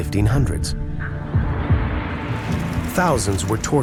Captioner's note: tense music continues; fire roaring